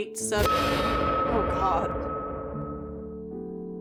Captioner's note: music Screech